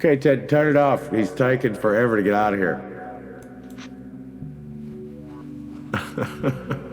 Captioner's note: laughs